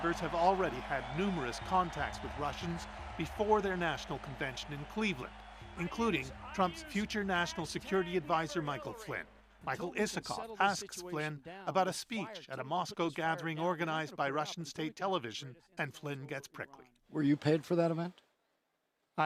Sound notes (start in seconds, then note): 1.6 cheers and Applause